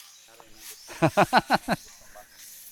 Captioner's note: laughs